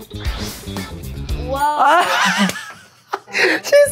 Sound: laughs

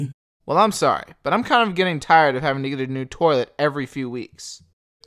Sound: none

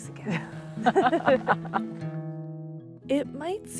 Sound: both laugh

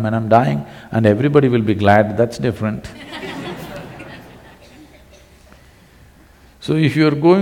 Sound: laughter

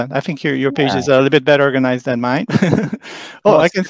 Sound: chuckles

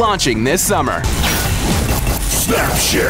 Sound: electronic buzzing

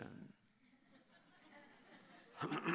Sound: laughter

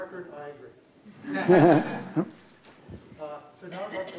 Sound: audience laughs

